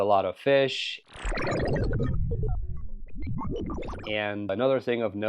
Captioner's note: trippy sounds